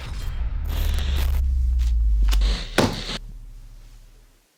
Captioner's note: static buzzes